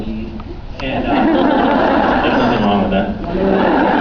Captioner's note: laughs